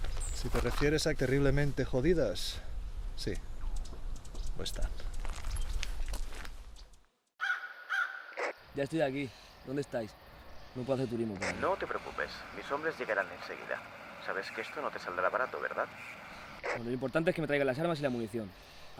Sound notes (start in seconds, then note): 11.8 voice from a walkie-talkie